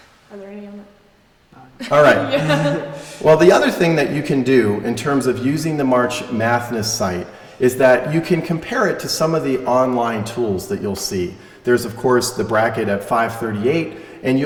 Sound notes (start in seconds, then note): 1.8 laughter